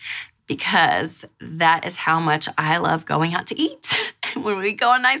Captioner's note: chuckles